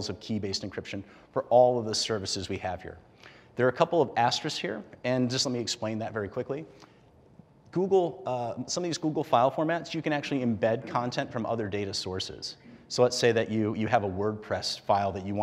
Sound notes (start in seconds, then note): none